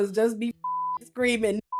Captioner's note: beep